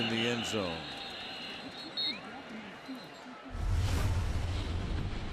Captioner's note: whistle